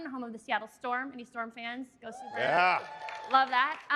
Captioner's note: applause